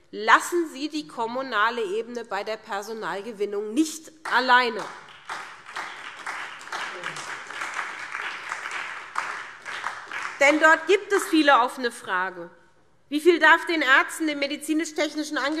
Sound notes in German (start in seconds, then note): 4.2 Beifall SPD